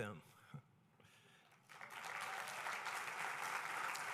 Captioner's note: applause